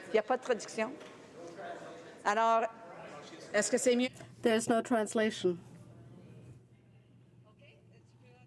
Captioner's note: speaking French